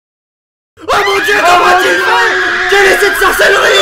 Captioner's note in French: Crie en fond